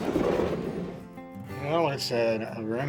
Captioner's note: drawer scratching